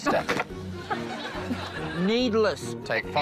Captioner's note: laughs